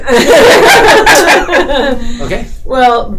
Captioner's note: laughter